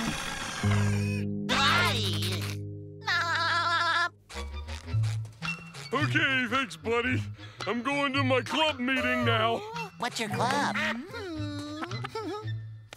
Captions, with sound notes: I-Ick. [laughing] Okay, thanks, buddy. I'm going to my club meeting now. What's your club, hmm? [giggling]